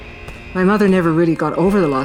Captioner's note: gunfire